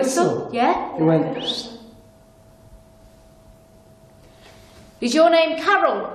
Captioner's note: whistles